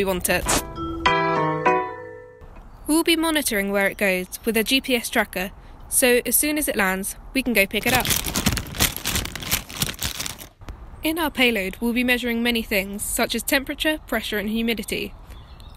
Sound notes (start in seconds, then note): 0.6 goofy Music; 7.6 Payload Collection Noises